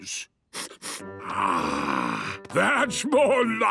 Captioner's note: sniffs